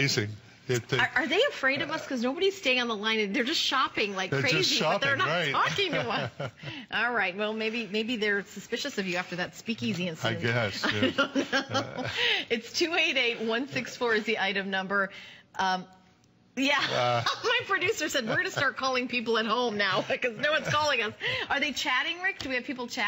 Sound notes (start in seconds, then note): 10.8 laughter